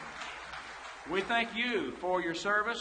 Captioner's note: audience applauds